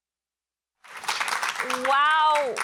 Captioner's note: applause